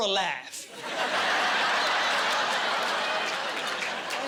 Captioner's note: laughing